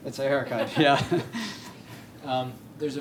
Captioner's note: laughter